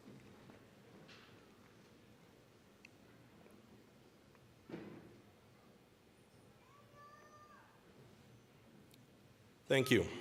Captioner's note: silence